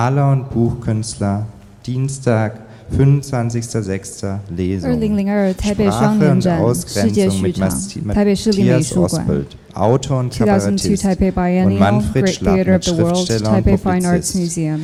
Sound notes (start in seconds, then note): 0.2 speaker speaking in a foreign language